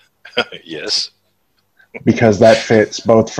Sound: chuckles

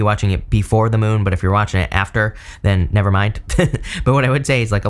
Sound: chuckles

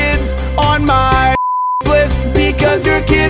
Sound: beep

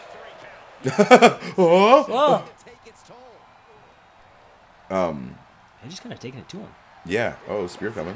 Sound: laugh

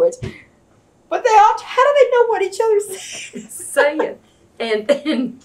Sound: laughs

